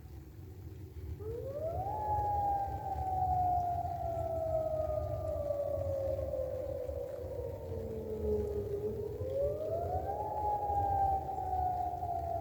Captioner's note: siren